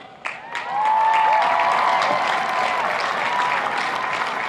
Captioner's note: applauding